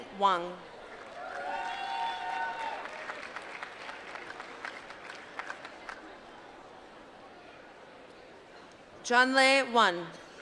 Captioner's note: applause